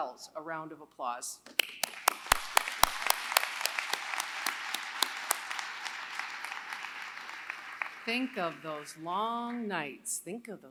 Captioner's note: applause